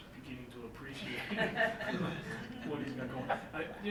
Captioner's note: laughing